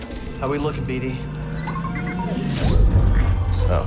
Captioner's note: bd-1 chirps